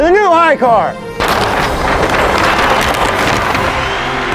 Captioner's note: audience cheering